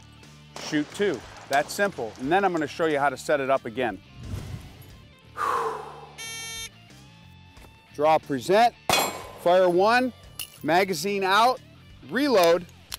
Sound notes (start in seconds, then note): 5.3 deeply exhales; 6.2 signal beeps